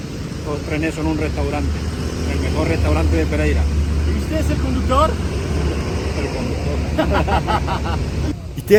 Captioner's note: laughter